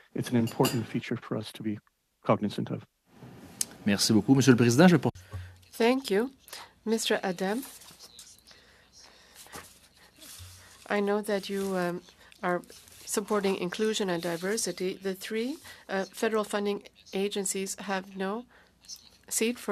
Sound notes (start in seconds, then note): 10.4 speaking French